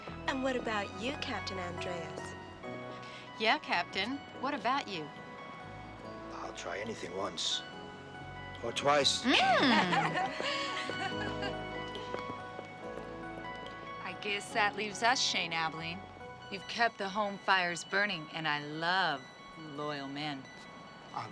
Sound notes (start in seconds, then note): 9.2 ladies laughing